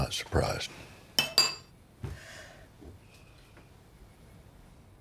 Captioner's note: silverware clanks